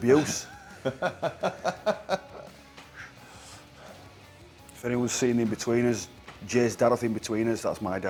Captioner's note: laugh